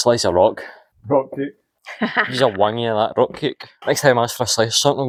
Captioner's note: laughter